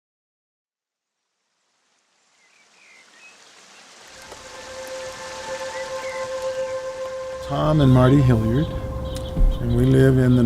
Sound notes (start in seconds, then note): 2.7 water rushing; 4.1 string music